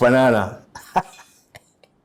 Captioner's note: laughs